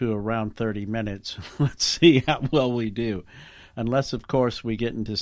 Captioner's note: laughing